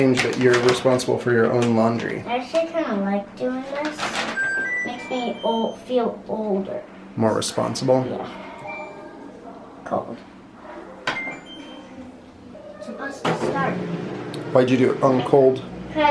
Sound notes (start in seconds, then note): 10.8 washer beeps